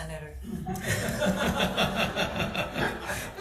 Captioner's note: people laugh